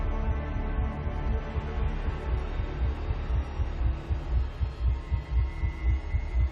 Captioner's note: ominous music; heart beating loudly